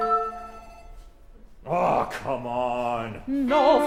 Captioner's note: phone rings